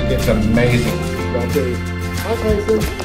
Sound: murmurs

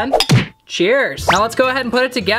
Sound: thumping

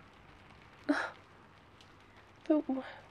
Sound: gasp

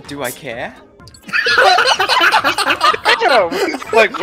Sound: laughter

